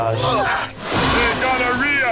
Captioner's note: gonorrhea growling